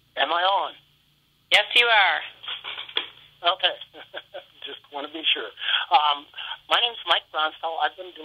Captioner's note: laughter